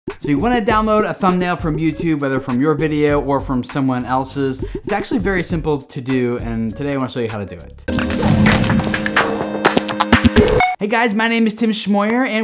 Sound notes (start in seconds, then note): 8.0 mechanical whooshing